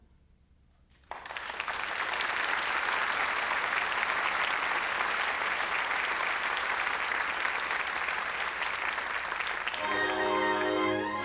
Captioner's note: applause